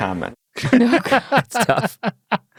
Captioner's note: laughs